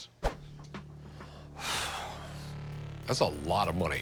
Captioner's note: exhales